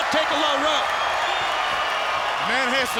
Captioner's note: crowd cheering